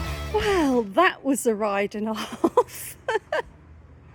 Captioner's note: laughing